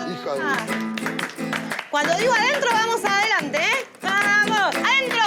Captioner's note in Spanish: Aplausos y guitarra